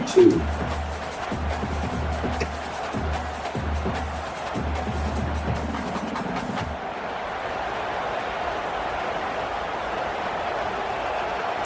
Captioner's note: crowd Noises